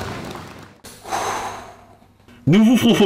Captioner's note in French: 1er Long soupir